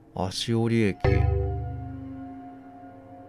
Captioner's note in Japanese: 📩 受信音：デェン！